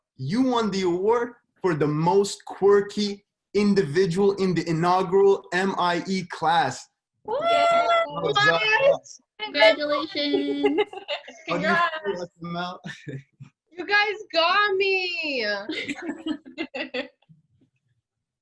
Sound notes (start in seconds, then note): 7.0 cheering; 15.7 all laugh